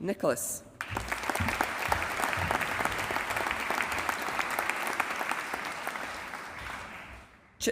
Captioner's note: applause